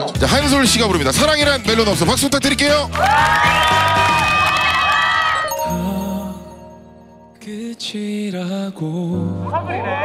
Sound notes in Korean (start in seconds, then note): 2.1 박수갈채